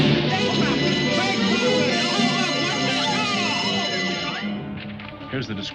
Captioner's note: people clamor; alarm rings